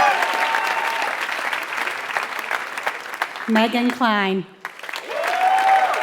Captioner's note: applause